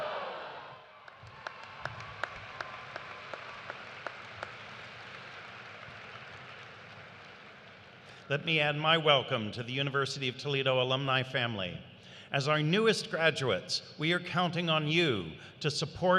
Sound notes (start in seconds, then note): 4.2 cheers and applause